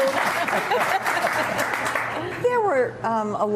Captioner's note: applause